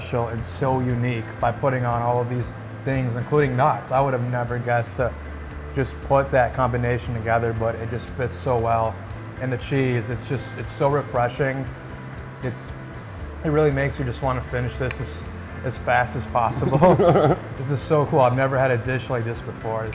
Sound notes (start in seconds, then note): 16.4 laughs